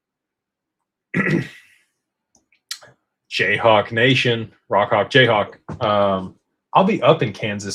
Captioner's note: clears throat